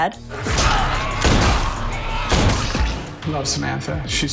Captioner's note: groaning and gunshots